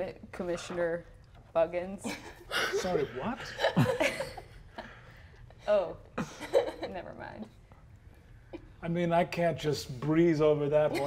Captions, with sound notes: Commissioner Buggins. (players laughing) - Sorry, what? - Oh, nevermind. - I mean, I can't just breeze over that one.